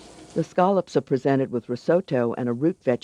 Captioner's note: voiceover